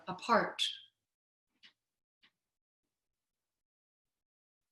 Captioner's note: silence